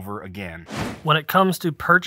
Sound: whooshing

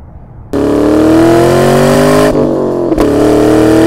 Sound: engine revving

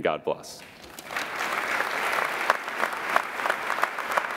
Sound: applauding

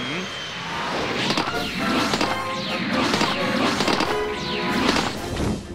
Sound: dramatic feet entry

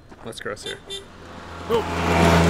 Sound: horn honks

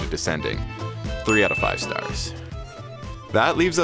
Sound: bell ringing

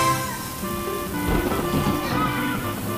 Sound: thunder crashing

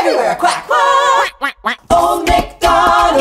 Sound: singing; quack, quack, quack; singing

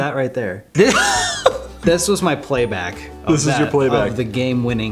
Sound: laughter

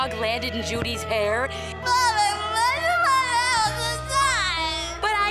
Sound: crying

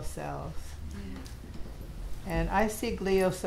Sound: audience agreeing

